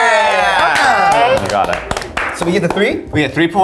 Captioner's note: clapping